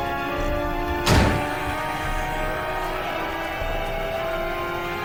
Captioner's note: gunshot booming